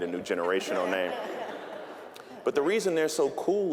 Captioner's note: audience laughing